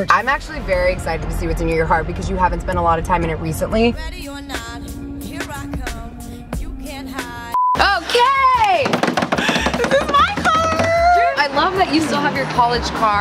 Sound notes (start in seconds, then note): 7.5 high pitched beep; 8.8 loud banging